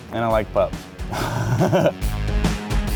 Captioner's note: laughing; upbeat rock music